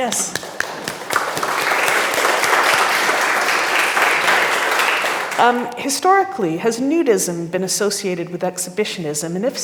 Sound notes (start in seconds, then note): 0.0 audience clapping